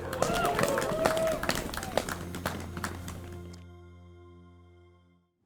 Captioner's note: people clapping and cheering